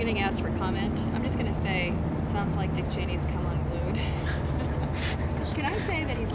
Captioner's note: laughter